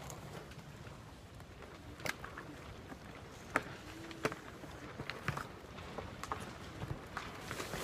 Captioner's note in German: Das Sonnensegel flattert im Wind